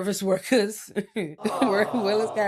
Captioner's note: chuckling